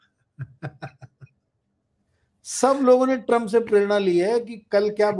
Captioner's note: laughter